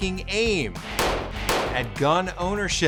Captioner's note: gun firing